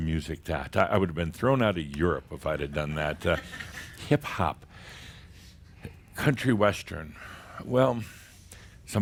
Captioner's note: a few chuckles